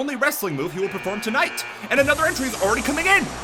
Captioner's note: buzzer buzzes